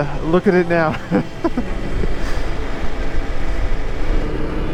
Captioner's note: laughs